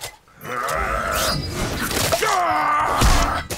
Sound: grunting

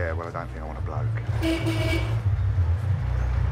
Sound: car horn beeps

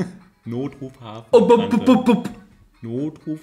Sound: makes some weird monkeyish noise; laughs

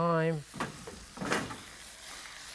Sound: pan clanking; sizzling

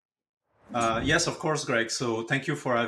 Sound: graphics whooshing

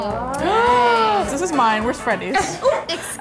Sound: gasps; laughing

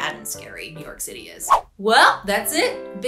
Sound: air swishes

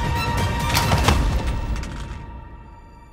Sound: thud on the ground

